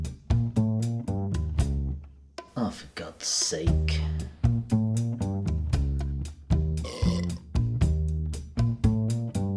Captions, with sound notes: 'Oh for Gods sake.' Disgusting, drunken douchebag. *BURP*